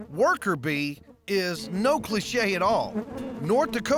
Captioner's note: bees buzzing